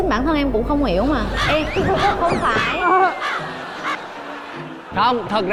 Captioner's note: laughing